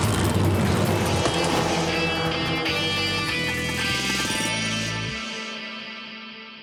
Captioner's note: engine starting; engines revving; dramatic music